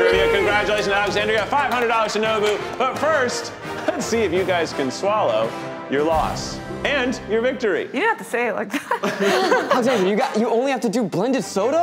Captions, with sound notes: Congratulations, Alexandria, $500 to Nobu. But first, let's see if you guys can swallow your loss and your victory. You don't have to say it like that. (cast laughs) (upbeat music) - Alexandria, you only have to do blended soda?